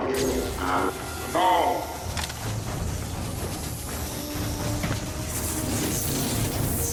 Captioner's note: electricity crackling